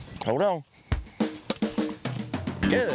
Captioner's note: whack